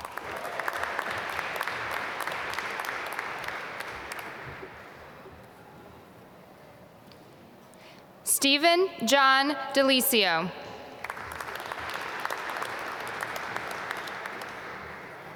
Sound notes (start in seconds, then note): 0.0 applause; 11.0 applause